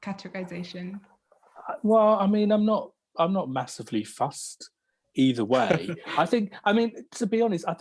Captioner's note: laughs